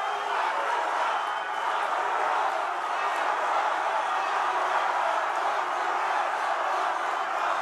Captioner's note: cheering continues